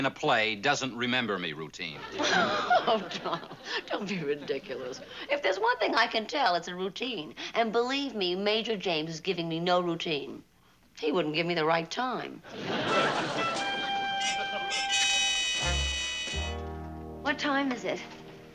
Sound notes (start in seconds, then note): 2.1 laughs